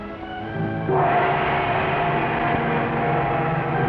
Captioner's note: gong bangs